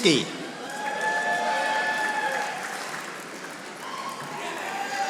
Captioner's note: audience applauding